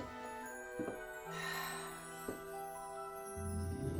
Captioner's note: sighs with delight